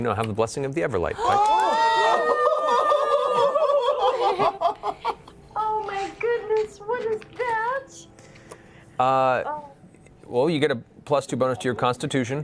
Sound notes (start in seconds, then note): 1.2 cheering